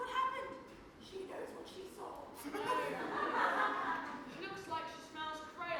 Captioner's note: audience laughs